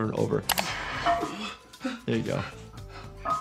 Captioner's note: IShowSpeed panting